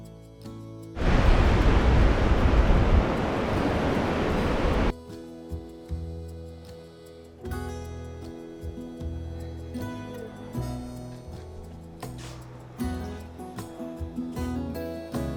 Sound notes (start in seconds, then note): 1.0 car engine whirring; 7.6 mellow guitar music